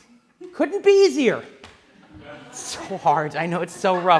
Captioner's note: laughing